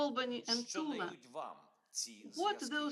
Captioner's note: Volodymyr speaking foreign language